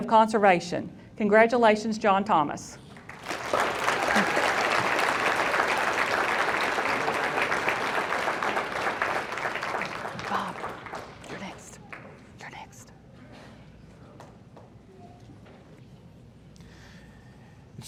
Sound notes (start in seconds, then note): 2.9 audience applauding